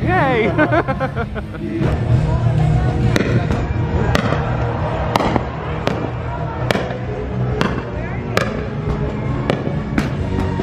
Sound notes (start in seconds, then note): 0.1 laughs; 4.9 fireworks crackle